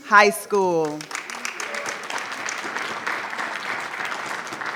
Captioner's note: audience clapping